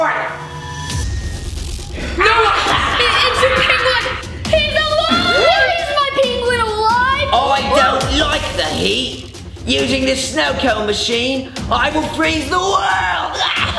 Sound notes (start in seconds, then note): 0.7 dramatic music; 2.2 penguin laughs maniacally; 13.5 laughs maniacally